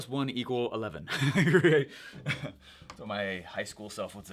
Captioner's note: chuckles